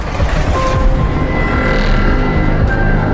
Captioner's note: drawer scrapes; gentle haunting music continues